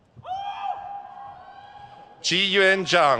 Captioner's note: crowd cheers